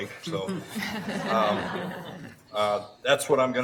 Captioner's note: laughing